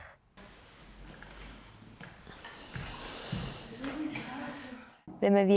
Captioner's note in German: leise Stimmen und Atmen